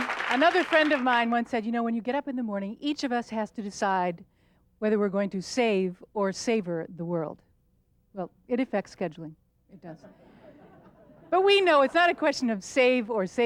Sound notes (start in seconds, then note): 10.0 audience laughter